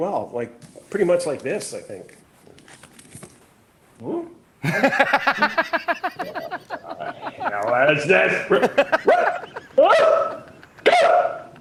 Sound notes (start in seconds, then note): 4.6 laughing